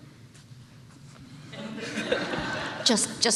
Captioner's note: laughter